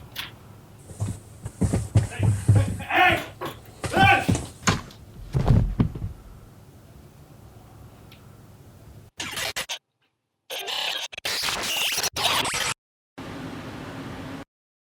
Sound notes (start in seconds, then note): 0.9 loud commotion; 5.2 loud thud; 9.2 audio jumping